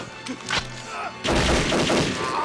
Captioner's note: gunshots blasting